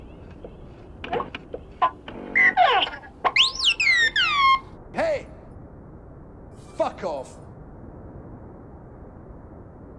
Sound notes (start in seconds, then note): 2.3 R2D2 chirps